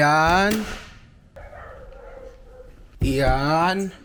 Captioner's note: dogs barking